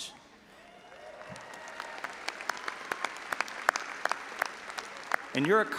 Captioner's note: all applauding and audience cheering